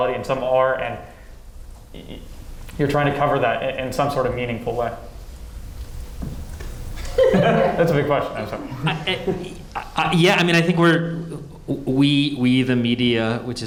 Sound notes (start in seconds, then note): 7.0 panelists laughing